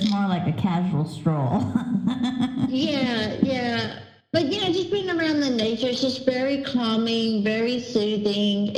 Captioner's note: laugher